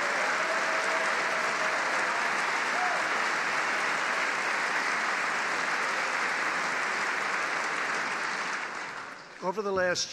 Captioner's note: applause